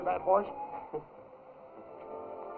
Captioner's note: laughs